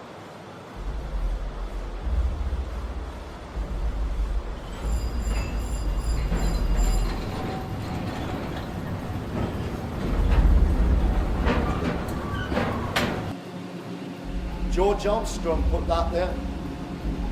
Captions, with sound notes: (rumbling sounds) George Armstrong put that there.